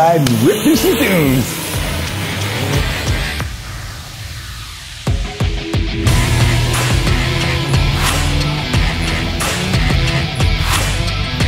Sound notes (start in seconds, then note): 1.7 engine Revving; 6.2 engine Roars; 8.6 upbeat Rock Music Continues